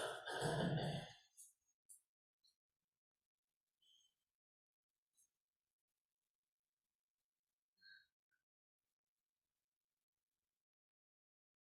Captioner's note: silence